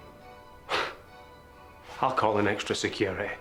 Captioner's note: scoffs